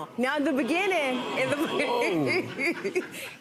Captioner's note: crowd oh's